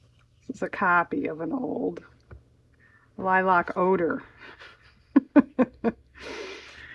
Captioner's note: laughs